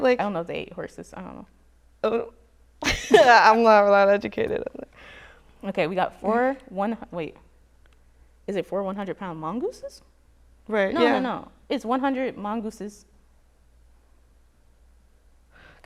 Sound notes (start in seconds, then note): 2.8 chuckles